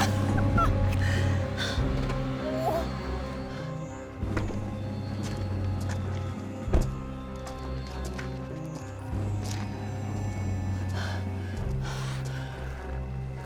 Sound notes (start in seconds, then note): 2.2 whimpers; 2.4 Rachel groans; 10.6 sinister music